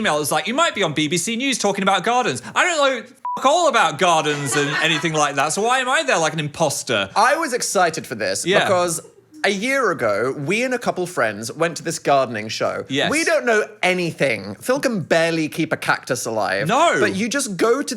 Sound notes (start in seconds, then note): 3.2 beep